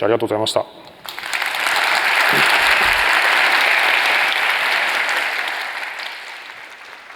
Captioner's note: applause